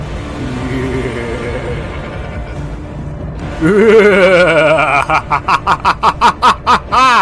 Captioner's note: evil Laughter